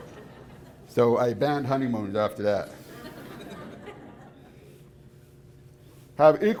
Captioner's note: audience laughs